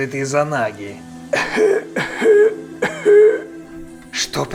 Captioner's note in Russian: Наггато кашляет